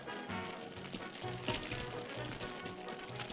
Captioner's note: fire crackling